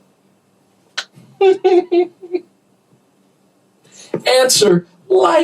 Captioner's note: laughter